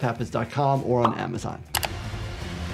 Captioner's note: mouse clicking; dramatic music